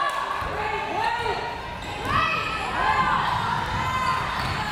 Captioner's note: crowd members shouting